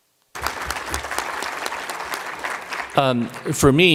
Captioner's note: applause